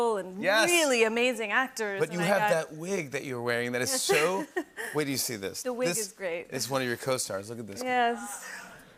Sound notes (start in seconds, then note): 4.5 laughs